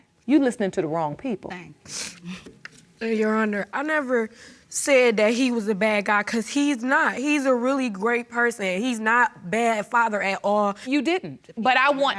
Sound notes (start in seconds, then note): none